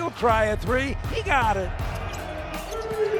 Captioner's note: audience applauding